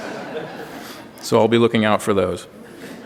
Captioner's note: laughter